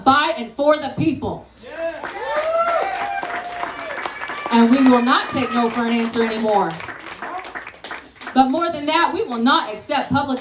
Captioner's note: yeah! *applause